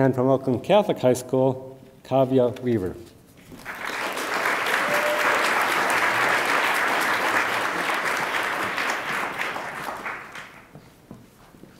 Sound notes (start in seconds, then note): 3.6 attendees applaud